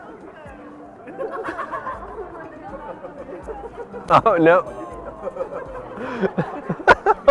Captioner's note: laughter; laughs